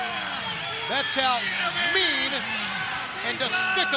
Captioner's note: crowd cheering